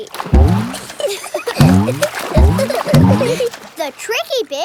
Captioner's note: giggling